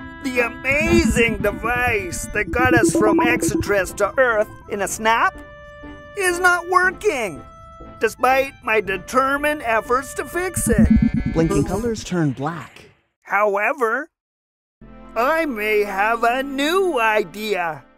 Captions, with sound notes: the amazing device that got us from Exittriss to Earth in a snap is not working despite my determined efforts to fix it [revving and honking sounds] However I may have a new idea